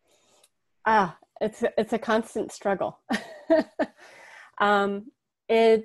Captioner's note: laughs